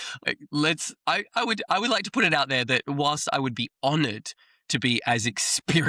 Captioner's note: laughs